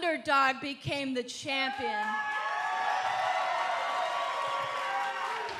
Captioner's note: cheers & applause